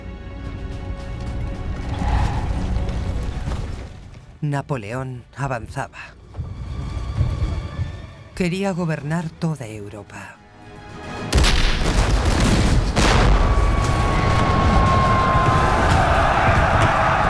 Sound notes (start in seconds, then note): 0.0 intense music; 11.4 cannon blasts; 13.5 soldiers bellowing